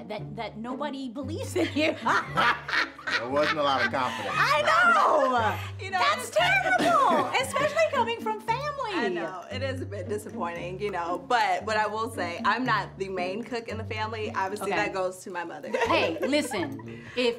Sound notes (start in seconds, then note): 1.6 Tia and Keyana laugh; 15.7 laughs